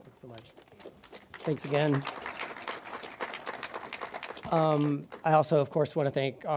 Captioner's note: audience applauding